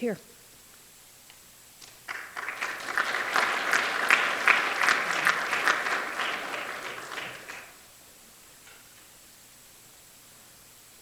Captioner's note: applause